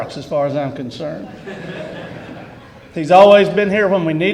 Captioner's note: laughter